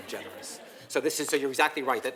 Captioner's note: laugh